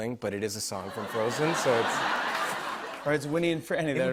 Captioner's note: laughter